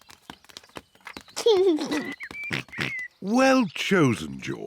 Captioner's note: giggles